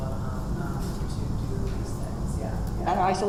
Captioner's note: speaks away from microphone